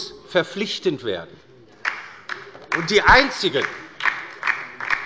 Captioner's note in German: Beifall bei der LINKEN